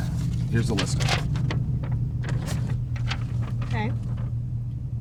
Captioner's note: paper rustling